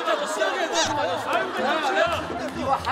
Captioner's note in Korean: 울먹